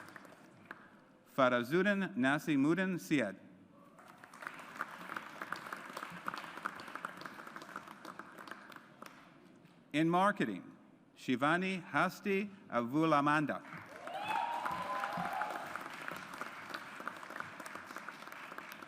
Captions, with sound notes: Farazuddin Nasimuddin Syed. (AUDIENCE APPLAUDS) In Marketing, Shivani Hasita Avulamanda. (AUDIENCE APPLAUDS)